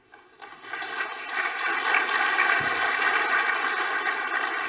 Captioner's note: audience applauding